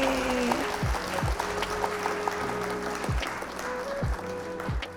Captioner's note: audience clapping